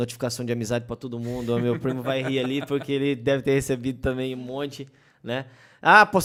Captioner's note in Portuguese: risos